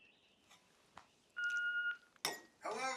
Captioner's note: machine beeping